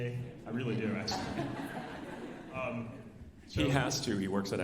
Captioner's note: alumni laughing